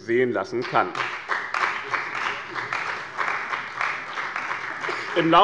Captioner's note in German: Beifall bei dem BÜNDNIS 90/DIE GRÜNEN und der CDU